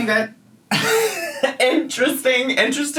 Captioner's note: laughing